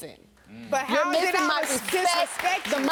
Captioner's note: audience clapping